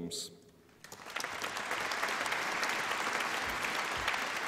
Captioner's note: applause